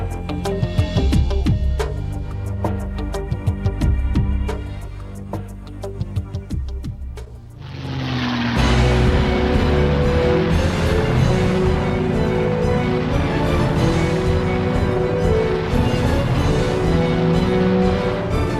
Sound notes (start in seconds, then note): 7.3 aircraft whirring; 7.3 intense orchestral music